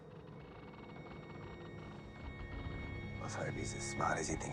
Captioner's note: eerie music; ship creaking